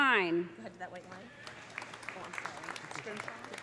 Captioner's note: audience applauding